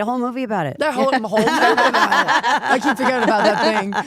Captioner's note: group laughs